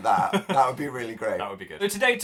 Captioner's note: Phil laughs